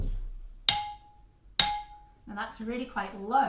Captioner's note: low glass sound